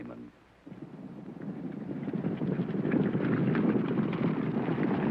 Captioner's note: hooves pounding